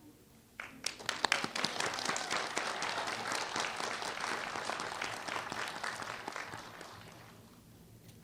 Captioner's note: applause